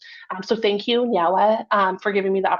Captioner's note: speaks in foreign language